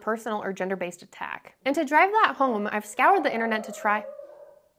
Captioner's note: dog bark in background